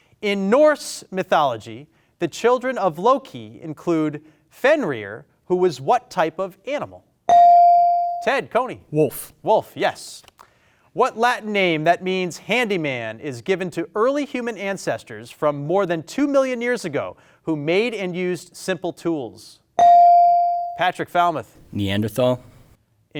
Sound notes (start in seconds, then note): 7.3 bed chimes; 19.8 buzzer chimes